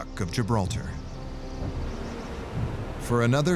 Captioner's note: birds chirping